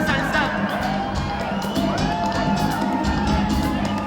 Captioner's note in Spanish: Gritos y exclamaciones